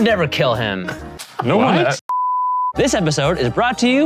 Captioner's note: beep